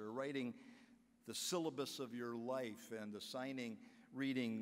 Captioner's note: none